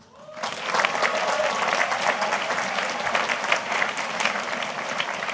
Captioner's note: students cheers and applauds